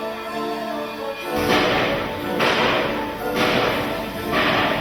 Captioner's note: object banging